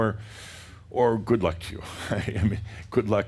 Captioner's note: chuckles